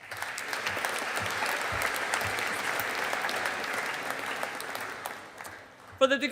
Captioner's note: audience applauding